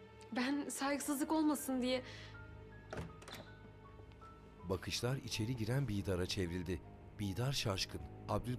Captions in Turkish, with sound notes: Ben saygısızlık olmasın diye... (Kapı açılma sesi)